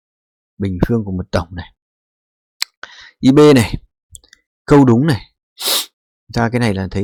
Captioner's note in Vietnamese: khịt mũi